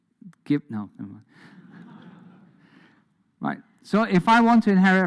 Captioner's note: audience laughs